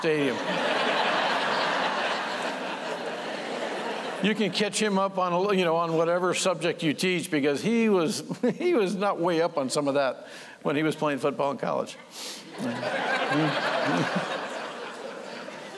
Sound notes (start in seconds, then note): 1.7 laughter; 12.5 laughter